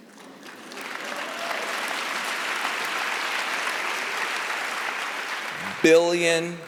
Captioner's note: applause